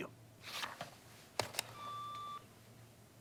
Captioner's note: alarm